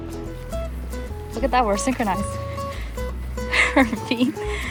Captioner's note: steps